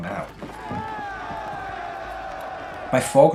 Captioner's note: soldiers cheers